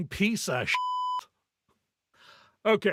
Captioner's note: beep